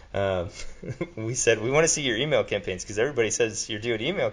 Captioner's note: laughs